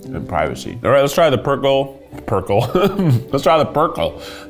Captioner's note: laughs